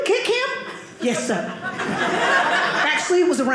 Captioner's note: audience laughing